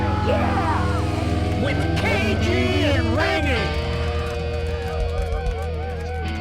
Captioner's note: cheering